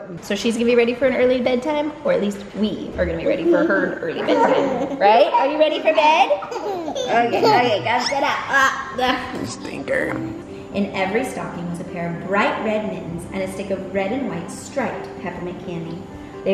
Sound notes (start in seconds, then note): 5.0 kids laugh; 9.1 groans